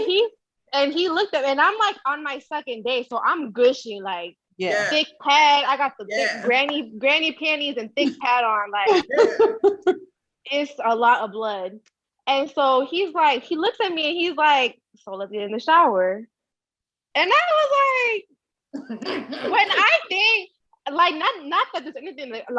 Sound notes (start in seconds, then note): 8.8 laughing